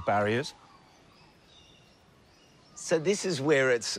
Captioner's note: birdsong